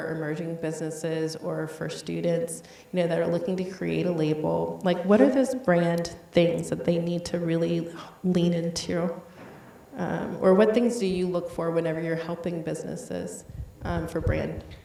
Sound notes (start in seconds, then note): none